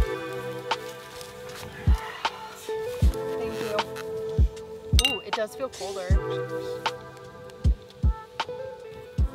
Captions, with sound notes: Thank you. (glass clinking) It does feel colder.